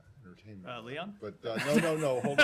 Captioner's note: laughter